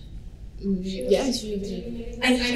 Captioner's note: speaking french